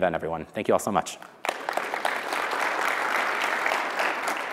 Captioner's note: audience clapping